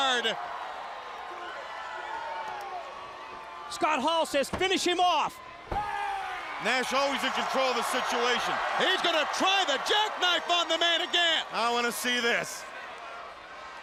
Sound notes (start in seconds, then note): 1.3 crowd cheering; 9.6 crowd cheering